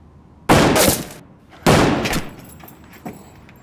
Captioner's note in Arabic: طلقات نارية